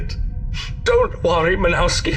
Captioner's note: sniffs